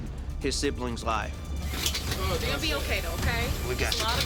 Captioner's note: machine zipping